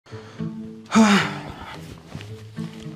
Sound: sighs

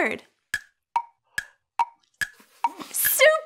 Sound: clock ticking

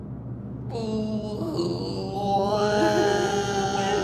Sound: and more crying

